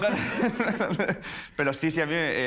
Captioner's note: laughs